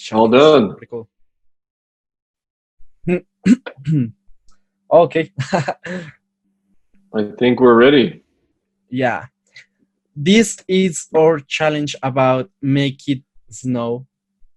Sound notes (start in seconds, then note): 5.2 laughs